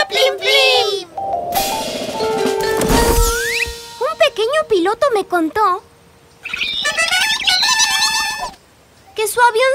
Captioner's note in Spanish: Sonido de pájaro